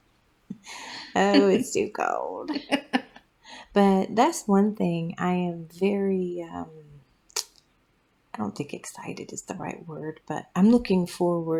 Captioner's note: laugh